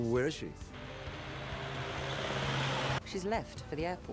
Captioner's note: engine rumbling